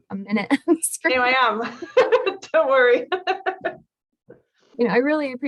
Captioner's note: both laughs